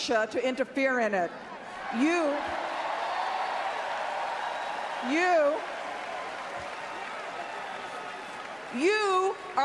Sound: applause

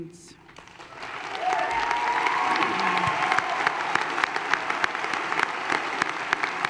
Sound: applause

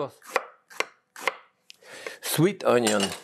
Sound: knife chops

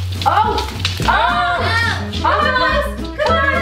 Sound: group yells

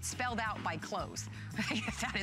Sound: laughter

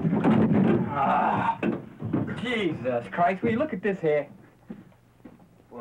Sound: growls

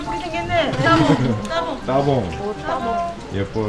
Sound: laughing

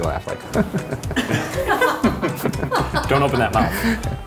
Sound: chuckles; chuckling

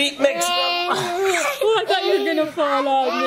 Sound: people laughing

